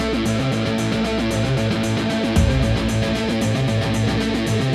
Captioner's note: fast-paced music; engines rumble